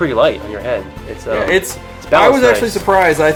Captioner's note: voiceover